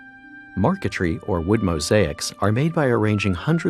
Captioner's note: voiceover